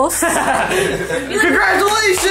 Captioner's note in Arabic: يضحك